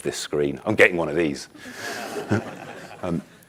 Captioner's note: audience laughing